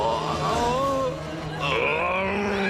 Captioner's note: roars